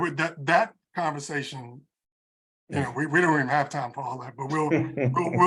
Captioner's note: laugh